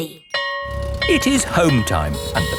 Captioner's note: school bell ringing